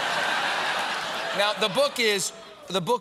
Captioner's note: laughter